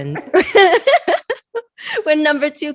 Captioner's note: both laughing